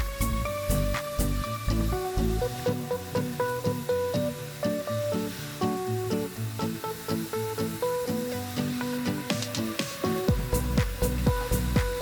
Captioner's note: sizzle; upbeat music; sizzle